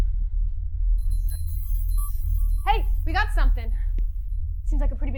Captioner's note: bells ringing